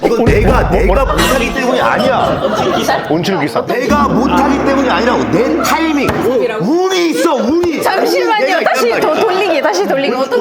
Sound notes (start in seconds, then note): 4.0 foreigners are speaking noisily